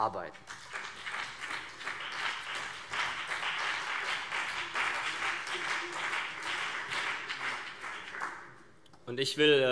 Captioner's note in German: Beifall CDU und BÜNDNIS 90/DIE GRÜNEN